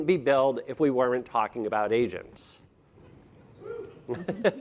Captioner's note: audience member hoots; laughing